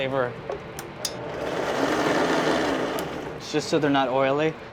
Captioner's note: blender whirs